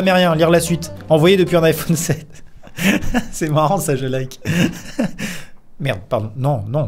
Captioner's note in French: rires